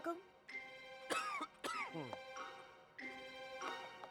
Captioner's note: coughs